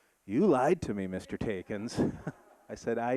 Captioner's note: audience laughing